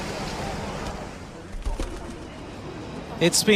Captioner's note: wings flap